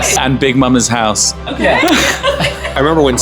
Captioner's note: laughing